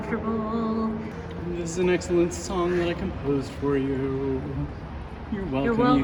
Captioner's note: sing-song